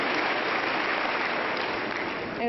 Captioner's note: applause